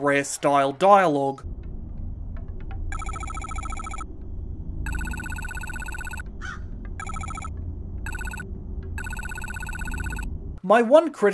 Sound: bleeps and bloops

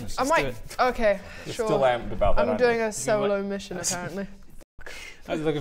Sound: none

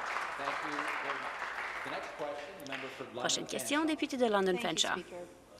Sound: some Applause

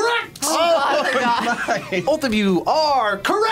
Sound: laughs

